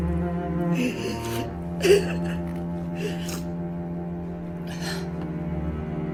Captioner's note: crying